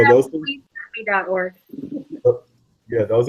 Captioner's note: audio cutting out